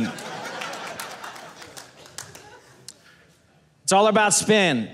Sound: audience laughing

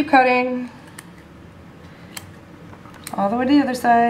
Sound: clipping sounds

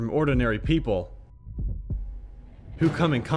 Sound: heart beats

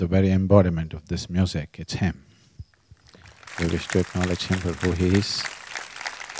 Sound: applause

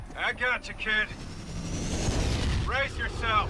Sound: radio

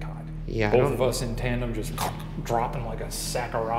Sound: gargles

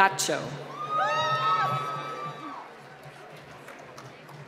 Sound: applause

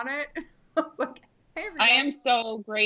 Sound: laughing

